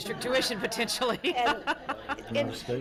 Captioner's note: everyone laughing